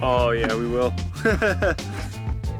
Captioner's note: laugh